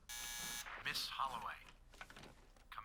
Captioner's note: buzzer